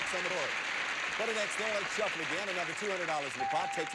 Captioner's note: audience applauding